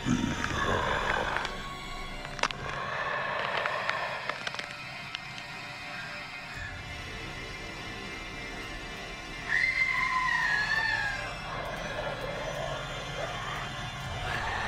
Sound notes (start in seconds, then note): 0.0 mummy snarling; 0.0 bones cracking; 9.5 woman screaming; 11.7 mummy snarling